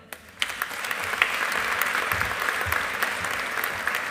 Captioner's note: audience applauding